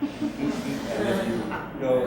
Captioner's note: audience laughs